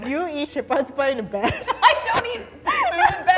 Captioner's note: laughs